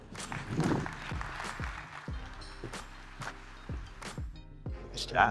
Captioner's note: audience applauding; upbeat music